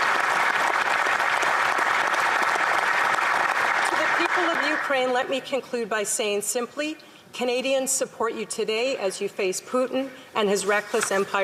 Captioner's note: applause